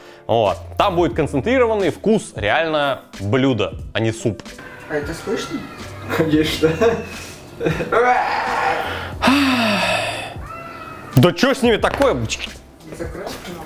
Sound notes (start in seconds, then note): 7.9 autistic screeching; 8.2 sigh; 10.4 children screaming